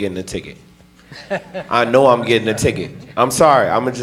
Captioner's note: laughing